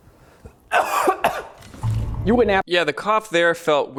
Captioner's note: person coughing